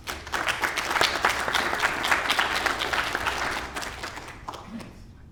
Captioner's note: applause